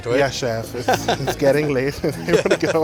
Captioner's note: laughs